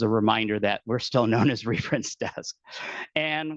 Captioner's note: laughing